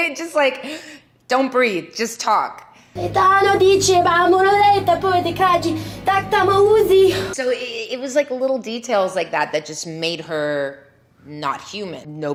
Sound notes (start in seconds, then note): 3.3 Leeloo yelling in gibberish